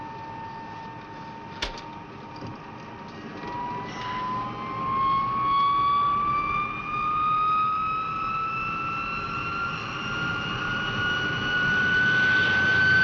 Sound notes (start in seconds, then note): 4.6 plane whirring